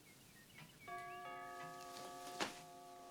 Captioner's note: doorbell Rings